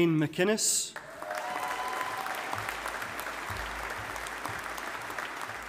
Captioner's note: audience applauding